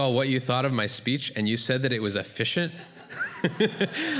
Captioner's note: laughter